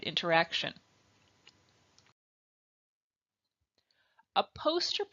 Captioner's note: silence